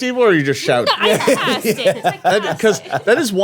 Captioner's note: laughing